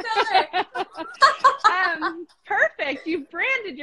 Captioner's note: both laughing